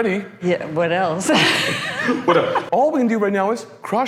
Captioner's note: laughing